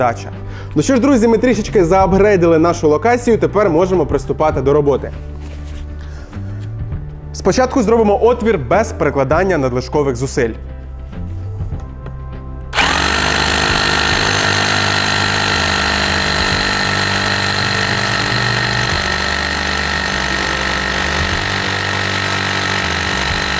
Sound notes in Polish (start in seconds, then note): 10.6 dźwięk młotowiertarki